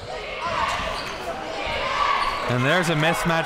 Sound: crowd

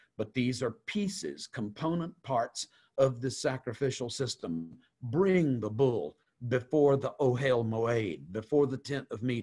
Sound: Hebrew

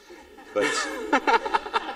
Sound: laughter

